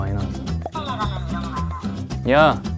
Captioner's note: wriggling